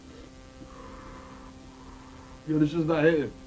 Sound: sucking in; blowing out

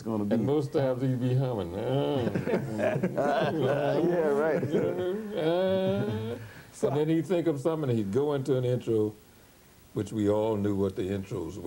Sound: humms

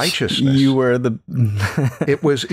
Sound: laughter

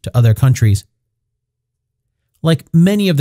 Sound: pause

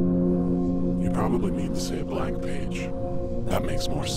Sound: low Voice

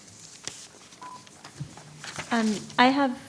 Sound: paper rustling; microphone beeping

